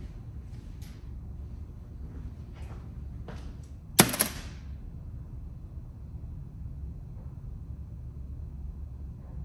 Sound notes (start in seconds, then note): 2.0 footsteps returning; 4.0 shitty plastic calipers hit the table